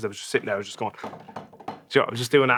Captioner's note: drums on table